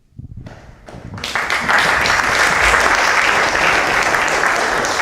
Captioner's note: applause